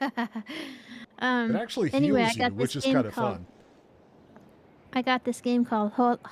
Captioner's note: laughs